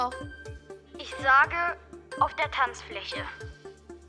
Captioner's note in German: über Telefon